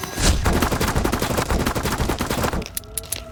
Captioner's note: gunshots blasting; rifle clicks